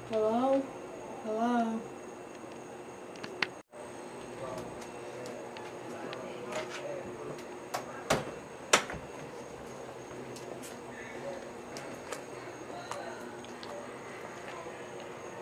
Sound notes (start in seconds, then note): none